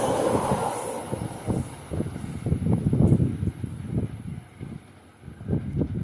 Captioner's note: windy; windy, Again